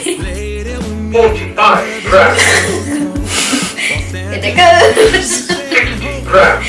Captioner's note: laughs loudly down the camera